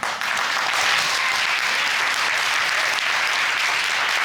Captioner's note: audience applauds